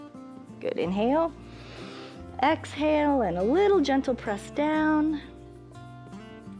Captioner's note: inhales